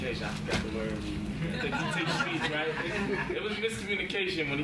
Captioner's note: members laugh